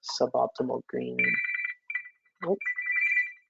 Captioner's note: phone rings